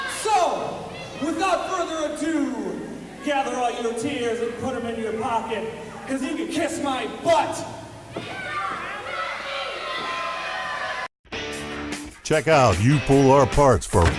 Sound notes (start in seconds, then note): 8.4 crowd yells; 11.3 upbeat rock music; 12.6 voiceover